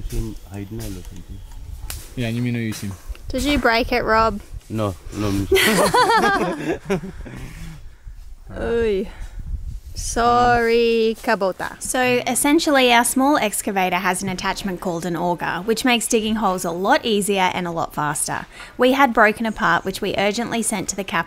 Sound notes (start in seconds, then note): 5.5 laughter